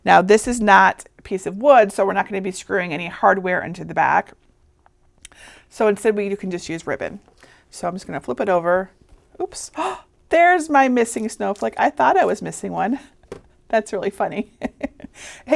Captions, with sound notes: Now this is not a piece of wood, so we're not going to be screwing any hardware into the back. So instead you can just use ribbon. So I'm just going to flip it over. Oops. (gasps) There's my missing snowflake! I thought I was missing one! That's really funny. (laughing)